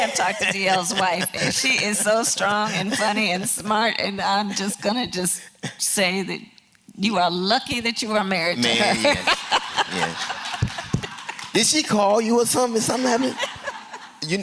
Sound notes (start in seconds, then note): 8.8 laughter; 12.9 laughter